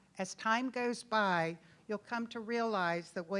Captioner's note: none